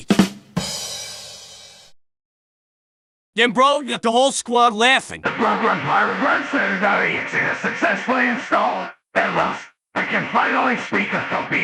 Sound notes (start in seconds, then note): 0.0 ba dum tss; 1.5 silence